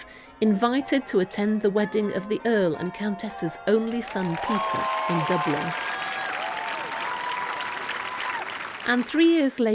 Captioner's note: applause